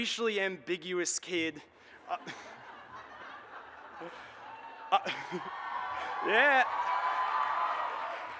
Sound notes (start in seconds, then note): 2.1 audience laughs, cheers, and claps